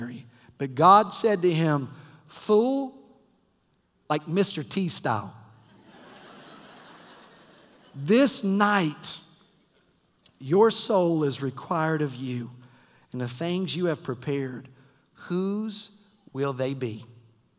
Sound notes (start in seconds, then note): 5.6 laughter